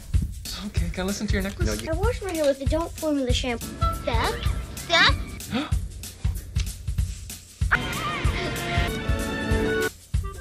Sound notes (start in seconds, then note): 5.4 gasping